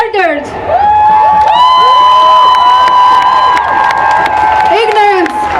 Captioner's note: cheering